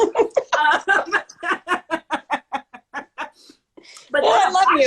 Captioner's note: laughter